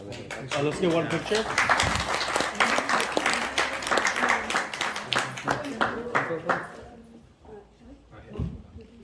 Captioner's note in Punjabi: ਤਾੜੀਆਂ